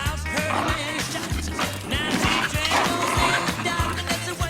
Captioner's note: dog growling